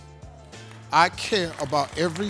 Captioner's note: claps